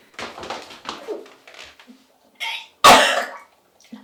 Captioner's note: woman puking